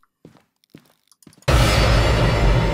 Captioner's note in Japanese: 効果音